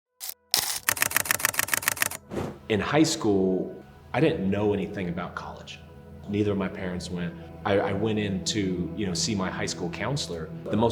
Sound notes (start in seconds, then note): 0.2 camera clicking